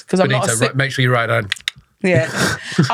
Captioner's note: click click